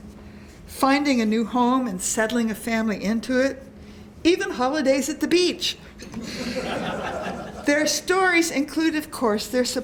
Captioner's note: laughter